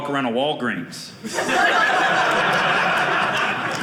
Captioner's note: audience laughing